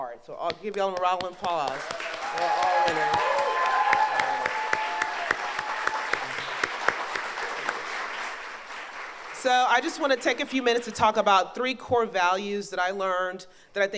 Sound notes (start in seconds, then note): 2.1 audience applauds